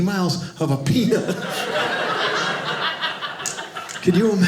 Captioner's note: audience laughing